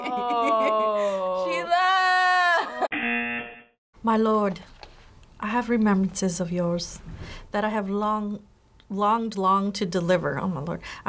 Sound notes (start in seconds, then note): 0.0 chuckles; 0.0 laughs; 2.9 buzzer